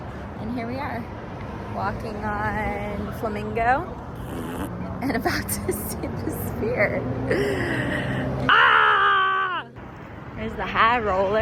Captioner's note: raspberry sound